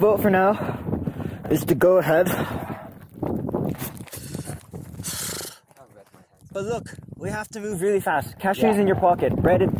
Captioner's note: cold sounds